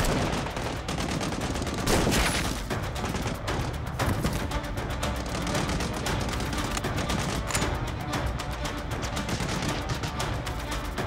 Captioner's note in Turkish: Silah sesi